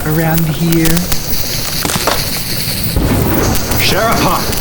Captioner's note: sparks crackle